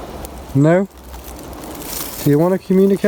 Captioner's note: leaves rustling